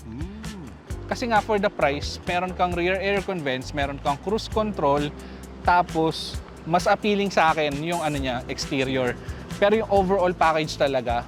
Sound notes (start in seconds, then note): none